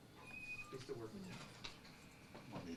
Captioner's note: door creaks